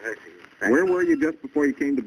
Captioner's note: on phone